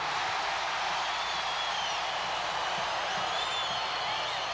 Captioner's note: crowd cheers